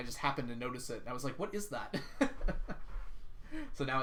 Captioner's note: laughs